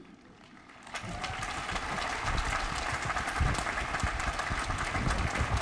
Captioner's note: applause